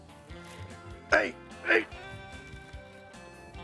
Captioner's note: grunting